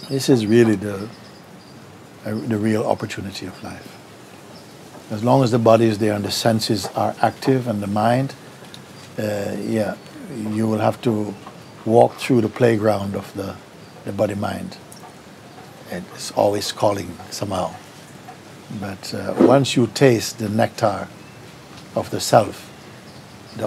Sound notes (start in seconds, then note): none